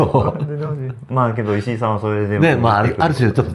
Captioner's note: laughs